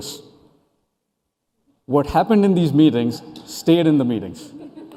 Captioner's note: laughter